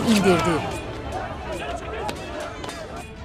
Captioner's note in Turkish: Bağırma sesleri